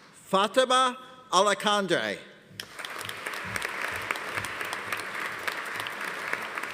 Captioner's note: audience applauding